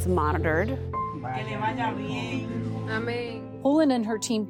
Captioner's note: doctors speaking in foreign language